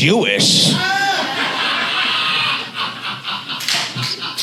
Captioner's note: audience laughs